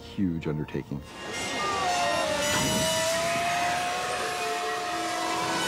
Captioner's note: shouting